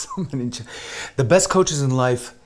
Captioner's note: mumbling in Armenian; chuckles